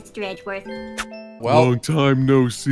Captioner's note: mwah